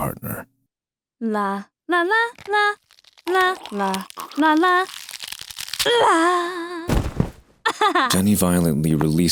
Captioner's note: snaps Neck